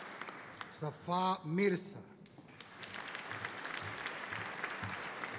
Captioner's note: audience applauding